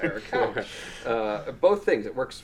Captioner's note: all laughing